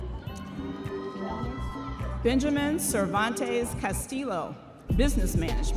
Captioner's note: audience members cheering